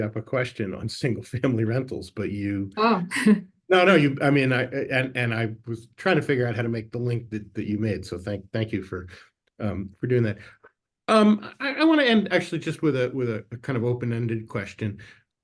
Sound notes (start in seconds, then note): 3.7 chuckles